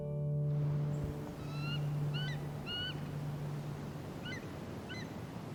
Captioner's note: bald Eagles calling